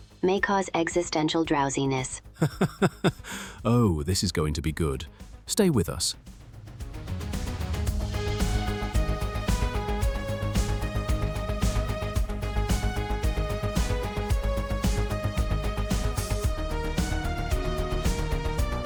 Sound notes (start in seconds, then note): 2.3 laughs; 10.8 dramatically